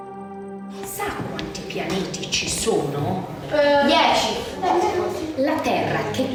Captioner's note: teacher speaking in foreign language